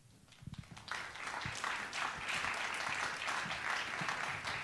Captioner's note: audience clapping